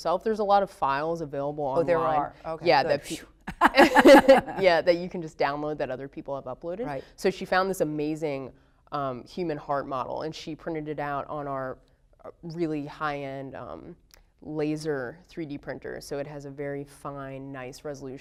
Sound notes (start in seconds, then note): 3.4 laughter